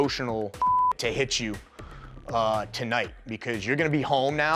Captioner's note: beep